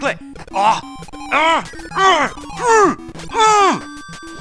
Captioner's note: inarticulate angry screams